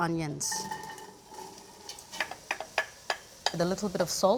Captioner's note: sizzling